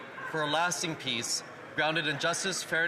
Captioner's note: speaking French